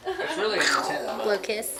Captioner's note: imitates explosion sound